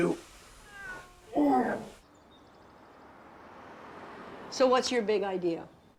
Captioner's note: cat meowing; Hitch groaning